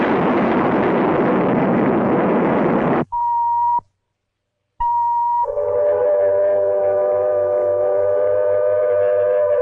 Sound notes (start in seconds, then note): 2.8 missile beeping; 5.3 sirens blaring